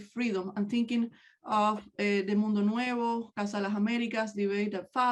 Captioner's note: speaks in native language